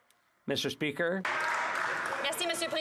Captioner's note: some Applause